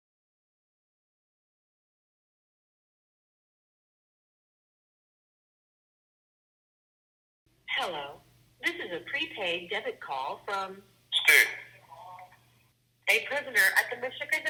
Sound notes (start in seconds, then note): 7.8 robotic Voice; 13.1 robotic Voice